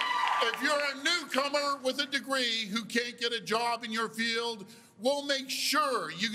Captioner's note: cheers and Applause